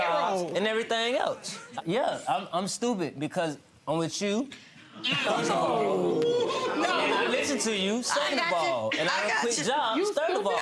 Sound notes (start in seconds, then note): 5.0 audience oohing